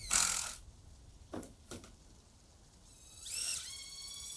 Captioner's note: drill buzzing